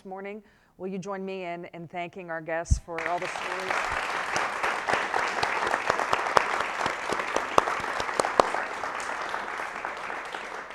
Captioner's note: strong applause